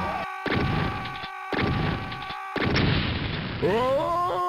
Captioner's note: Serious Sam's kamikaze scream